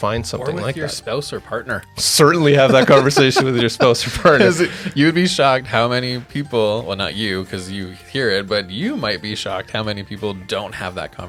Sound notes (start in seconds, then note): 2.6 laughing